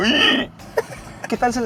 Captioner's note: laughter